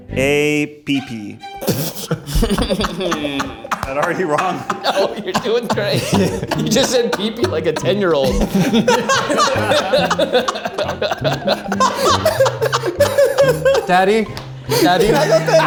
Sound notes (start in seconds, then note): 1.4 group laughs; 6.1 laughs; 6.5 group laughs; 9.4 group laughs